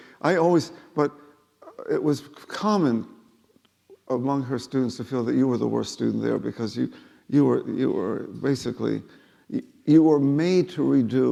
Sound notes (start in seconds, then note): none